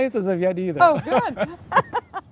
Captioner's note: laughs